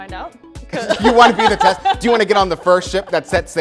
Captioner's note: laughs hard